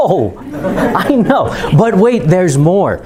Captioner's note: chuckling